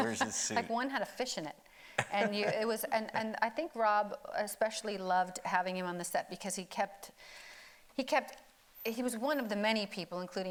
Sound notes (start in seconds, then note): 0.0 laughing; 2.0 laughing